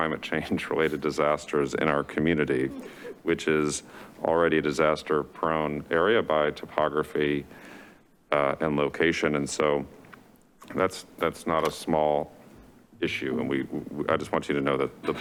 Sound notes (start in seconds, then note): 7.5 inhales